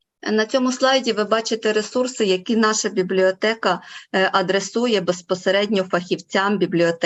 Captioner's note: foreign Language Spoken